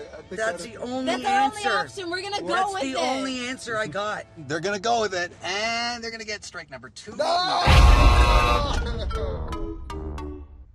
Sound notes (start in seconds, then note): 7.7 buzzer